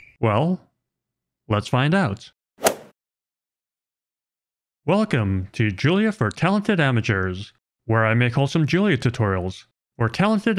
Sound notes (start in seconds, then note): 2.6 golf ball hit sound effect